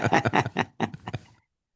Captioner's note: laughing